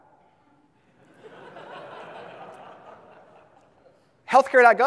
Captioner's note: audience laughs